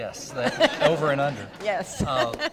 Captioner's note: audience laughter